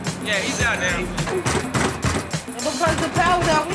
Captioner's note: door banging